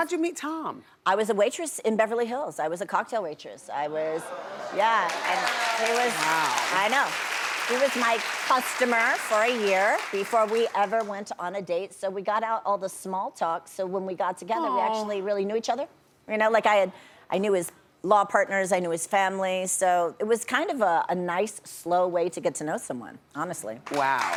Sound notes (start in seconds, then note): 4.7 audience applauds; 5.2 audience murmurs